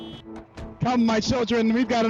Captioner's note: car honks